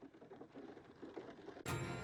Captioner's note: over tv